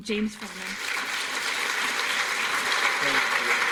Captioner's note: applause